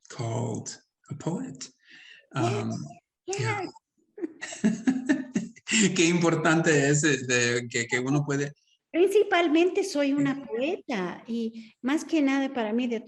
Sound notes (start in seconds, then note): 4.2 laughs; 6.0 speaking Spanish; 9.0 Sandra speaking Spanish